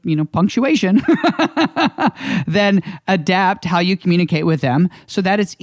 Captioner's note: laughs